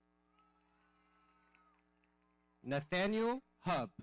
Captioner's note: audience cheering